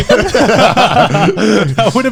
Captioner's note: laughing